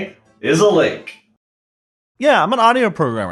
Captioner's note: music cuts